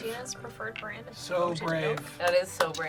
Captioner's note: claps